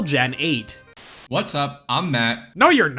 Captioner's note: static